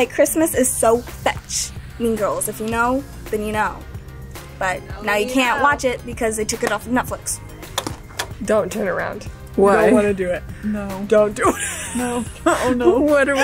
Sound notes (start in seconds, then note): 7.7 hanger clacks; 11.4 laughs